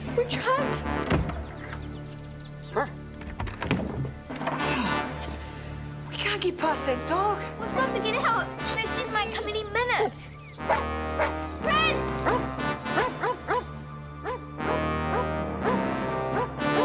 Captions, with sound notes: - We're trapped. (dog barks softly) - Oh, we can't get past that dog. - We've got to get out, those men might come any minute. (Prince whimpers and barks) Prince! (dog barking insistently)